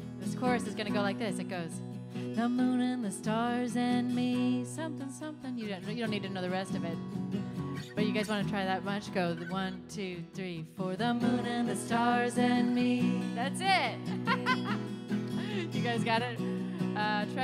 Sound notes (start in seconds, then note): 14.1 laughs